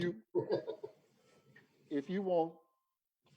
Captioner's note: laughing